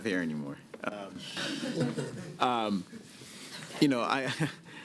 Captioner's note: laughter